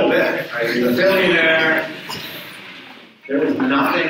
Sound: audience chuckles

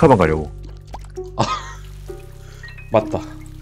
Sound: laughs

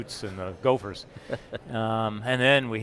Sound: laughter

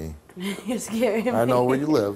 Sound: laughs

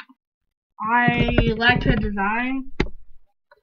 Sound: glitchy Replaying the Sound

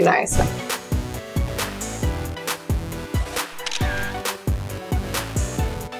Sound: upbeat music; camera clicking

